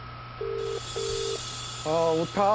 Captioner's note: phone ringing